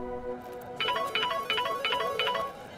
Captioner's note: Phone ringing